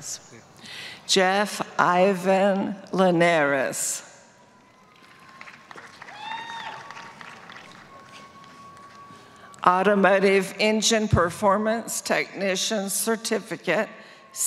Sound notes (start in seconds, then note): 4.6 applause